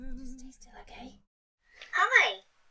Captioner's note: whispers